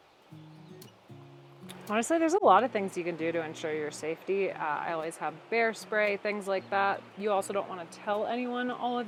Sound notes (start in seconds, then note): 2.3 birds chirping